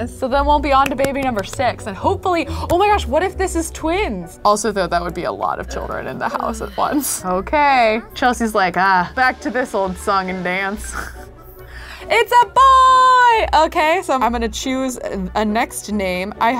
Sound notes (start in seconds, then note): 10.8 laughs